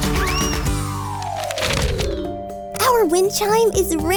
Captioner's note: transition tones